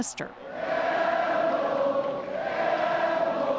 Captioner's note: cheers and Applause